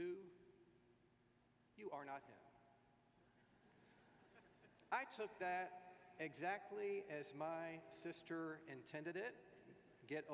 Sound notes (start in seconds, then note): 3.4 laughter